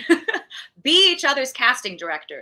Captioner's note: laughing